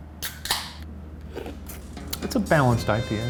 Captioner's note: can cracking; sipping